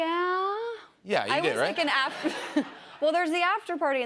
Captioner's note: laughter